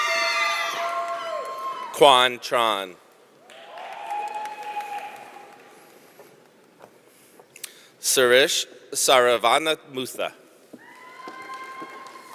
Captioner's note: applause